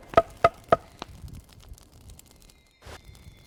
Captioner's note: bat thunks; fire crackling